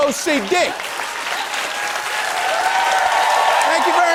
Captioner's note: cheers and applause